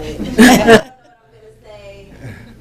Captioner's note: audience laughing